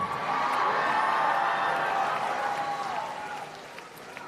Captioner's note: applause and Cheering